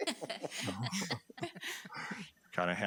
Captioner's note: board members laughing